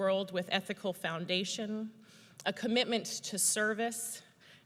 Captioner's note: none